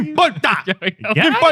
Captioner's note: speaking Spanish